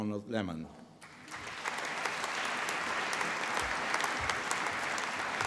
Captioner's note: applause